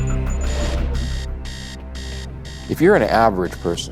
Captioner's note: alarm blaring